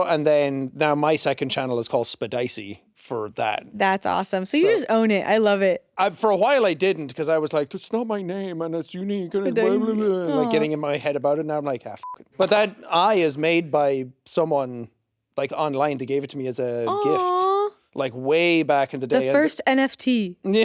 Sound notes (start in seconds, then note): 9.8 babbling; 12.0 beeps